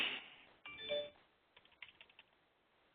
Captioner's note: text alert chime